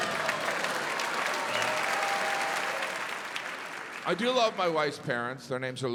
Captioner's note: audience cheering, applauding